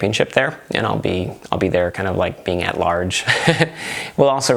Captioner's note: laughs